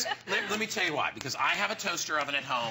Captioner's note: laughter